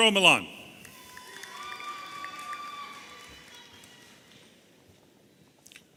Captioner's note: audience applauding and cheering